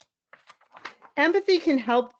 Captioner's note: paper rustles